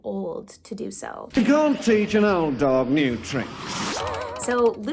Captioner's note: in an English accent